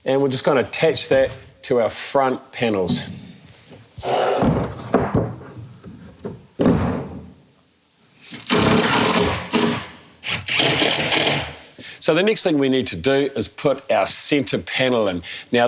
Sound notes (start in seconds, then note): 8.2 electric drill sound